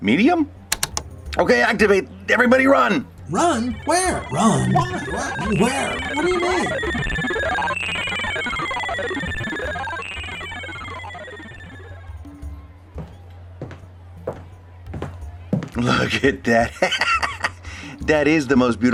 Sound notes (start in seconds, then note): 6.8 weird sounds as the device operates; 16.7 laughing